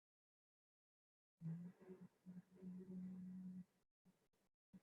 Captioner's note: humming